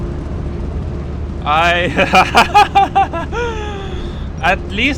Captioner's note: nervous laughter